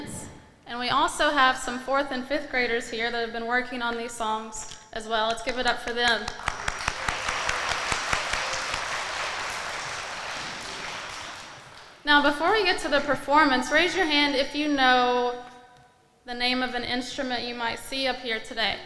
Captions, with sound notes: And we also have some fourth and fifth graders here that have been working on these songs as well. Let's give it up for them. (audience applauding) Now, before we get to the performance, raise your hand if you know the name of an instrument you might see up here today.